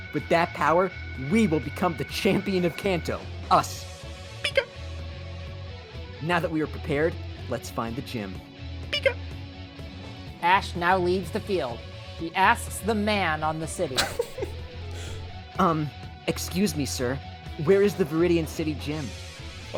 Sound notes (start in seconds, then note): 13.9 laughs